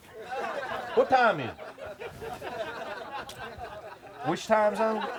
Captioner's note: audience laughs